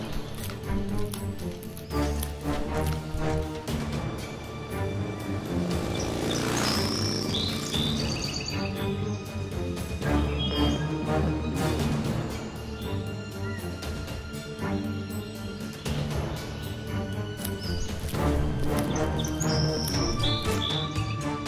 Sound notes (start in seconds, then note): 0.0 Stegosaurus munching on leaves; 4.7 Motorcycle revs as Owen and Blue speed off together; 17.2 ankylosaurus munching on leaves